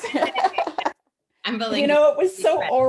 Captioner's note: laughs